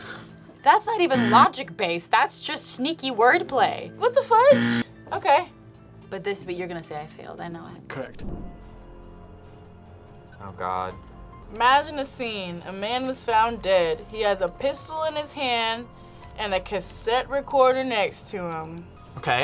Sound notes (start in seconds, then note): 4.5 buzzer rings; 8.9 tense music